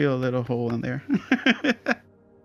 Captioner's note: laughter